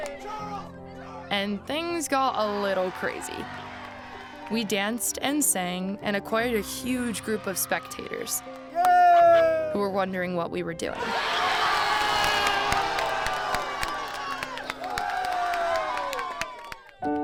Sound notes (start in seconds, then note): 11.1 applause; 16.9 slower music